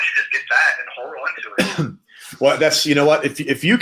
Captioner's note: coughs